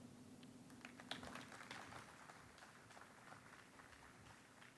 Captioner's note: audience applauds